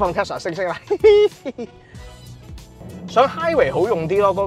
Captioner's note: laugh